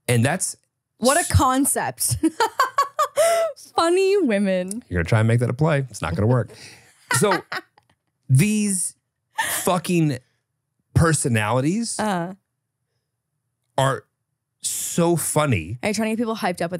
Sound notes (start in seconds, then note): 2.2 laughs; 6.9 laughs